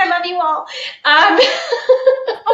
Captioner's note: laughing